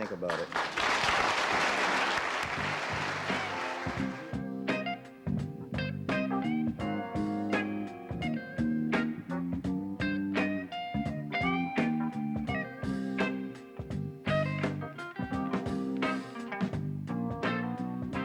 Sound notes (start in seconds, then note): 3.6 audience applauding; 7.1 blues